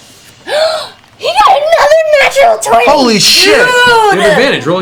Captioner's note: gasps